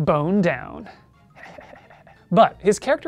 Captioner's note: whispery laughter